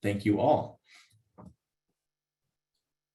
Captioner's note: silence to end